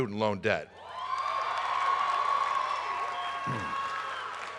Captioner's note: applause